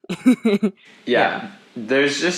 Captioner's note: laughs